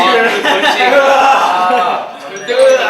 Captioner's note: hahahahahahahahahahahahahaha